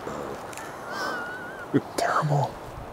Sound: laughing

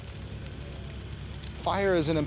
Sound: fire rustling

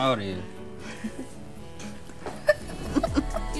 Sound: laughing

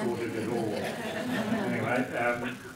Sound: laugh

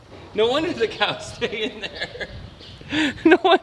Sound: laughing

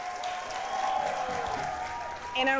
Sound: applause and cheers

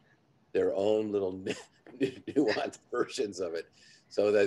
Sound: laughs

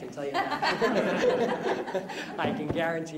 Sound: laughter

